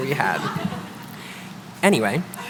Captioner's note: chuckling